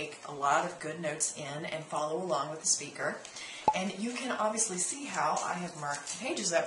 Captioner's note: pop